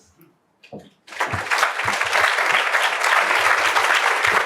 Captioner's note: applause